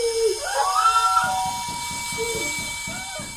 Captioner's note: muffled screaming; doorbell rings and knocking; muffled crying